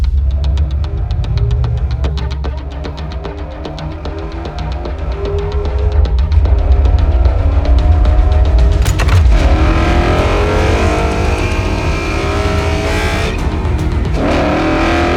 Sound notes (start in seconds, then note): 6.7 Glorious Coyote V-8 noises echoing through the desert